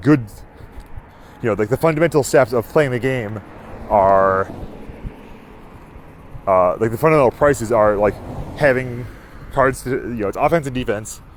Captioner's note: steps